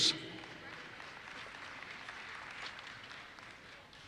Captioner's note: audience applauses